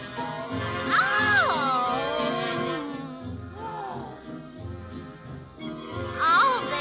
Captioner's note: gasping